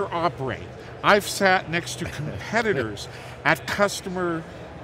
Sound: laughs

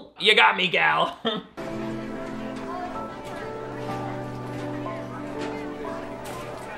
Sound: sad music; background chatter

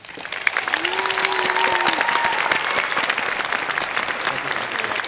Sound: cheers and Applause

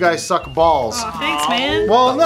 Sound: groans

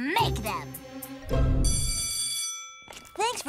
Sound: bell ringing

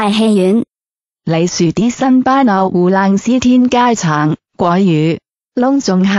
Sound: Mandarin

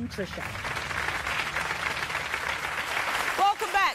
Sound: audience applause

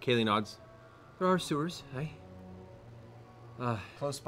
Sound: none

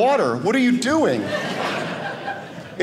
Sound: audience laughing

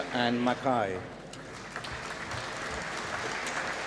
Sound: applause

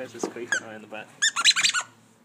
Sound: squeak

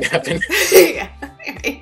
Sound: laughter

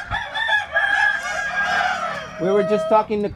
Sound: cockerel noises

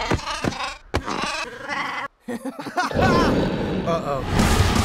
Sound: laughter

